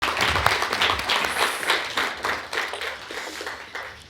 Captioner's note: audience applauding